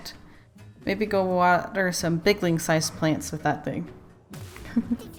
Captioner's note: laughs